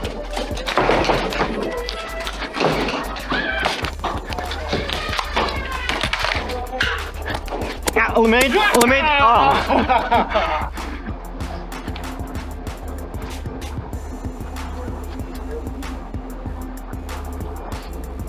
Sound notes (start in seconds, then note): 0.2 motors revving, blasters thunking, and footsteps; 4.3 motors revving and blasters thunking; 4.4 child scream; 9.3 laughter